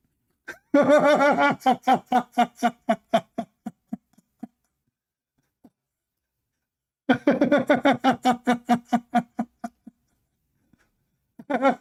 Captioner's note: Ketawa